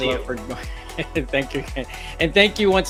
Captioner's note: chuckles